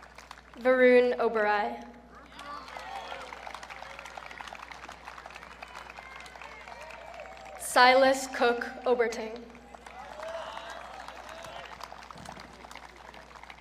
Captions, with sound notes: Varun Oberai. (audience cheering) Sylas Cook Oberting. (audience cheering)